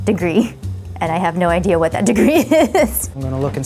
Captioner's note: laughs